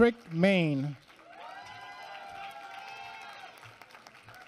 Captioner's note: applause